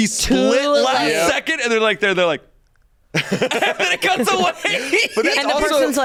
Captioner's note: laughs